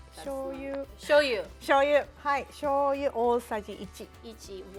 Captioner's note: speaking Japanese; speaking Japanese